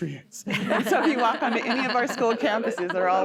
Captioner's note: laughter